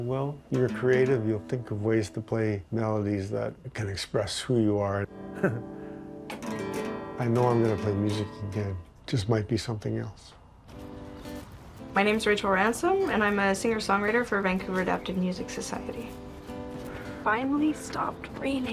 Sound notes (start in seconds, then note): 5.2 chuckling